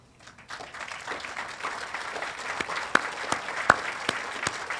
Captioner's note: audience applauding